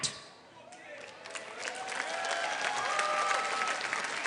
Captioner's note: applause